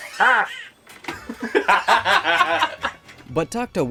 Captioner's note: laughter ensues